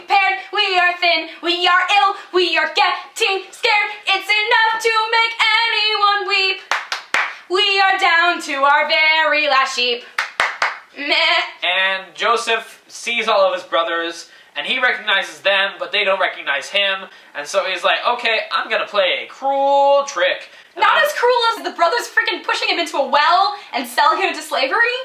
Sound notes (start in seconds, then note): 6.6 clap clap clap; 10.1 clap clap clap